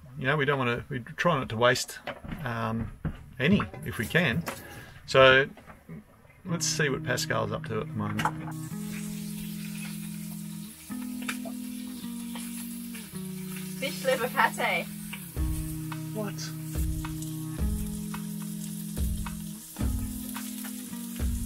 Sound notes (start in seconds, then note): 8.9 food sizzles in skillet; 17.9 calm instrumental music